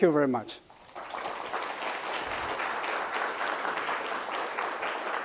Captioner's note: audience applauding